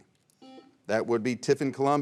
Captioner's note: buzzer rings